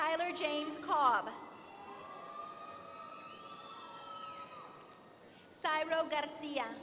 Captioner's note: applause